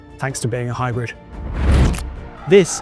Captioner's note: transition whooshes